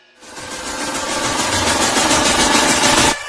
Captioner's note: none